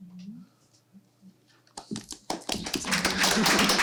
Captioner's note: applause